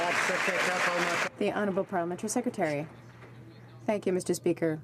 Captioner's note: some Applause